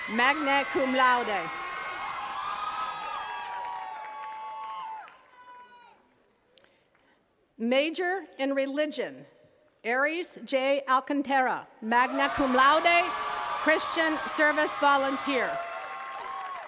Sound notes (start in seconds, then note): 0.0 attendees cheers and claps; 12.0 attendees cheers and claps; 16.4 attendees cheering and clapping